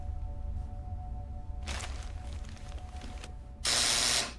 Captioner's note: buzzing; paper rustling; buzzing